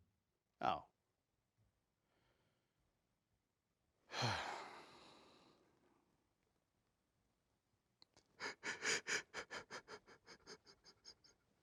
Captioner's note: sighs